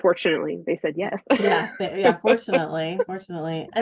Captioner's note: laughs